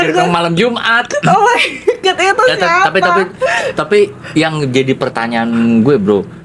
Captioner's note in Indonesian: tertawa